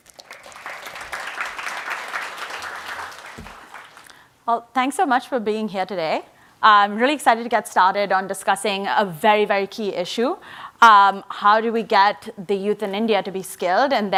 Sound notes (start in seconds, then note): 0.0 audience applauds